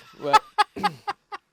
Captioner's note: laughs